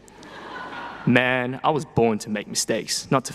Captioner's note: people laughing